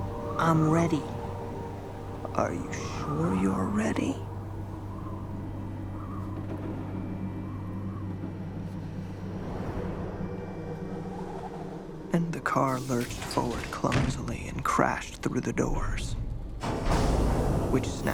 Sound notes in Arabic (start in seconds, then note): none